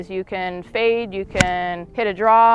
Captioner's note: golf ball smacks